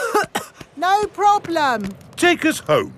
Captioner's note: coughing